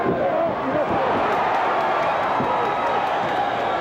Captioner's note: cheers